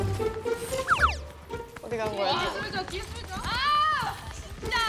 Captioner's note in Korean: 살금살금